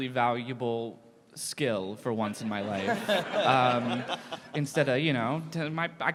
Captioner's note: laughter